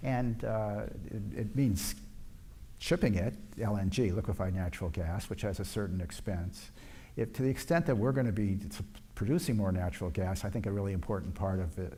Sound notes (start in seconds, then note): none